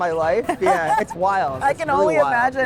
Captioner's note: laughing